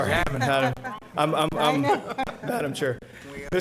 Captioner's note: board chuckling